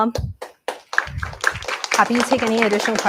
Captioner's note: applause